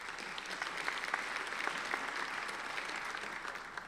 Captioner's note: applauding